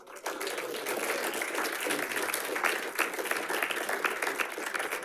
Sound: audience applauding

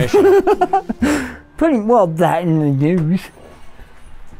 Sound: laughs

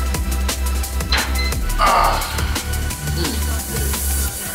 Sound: timer beeps; exhales; intense music

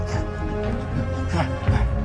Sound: Muldoon panting

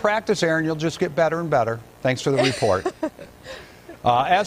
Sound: laughter

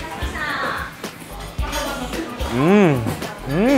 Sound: speaks in foreign language

